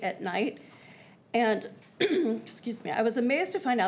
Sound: clears throat

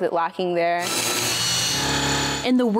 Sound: machine whirring

